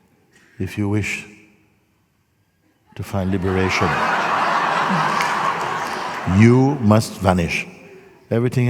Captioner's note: laughter